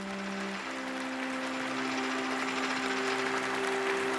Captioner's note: applause